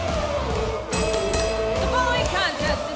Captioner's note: bell